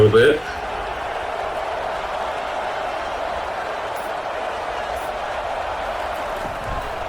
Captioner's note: crowd Noises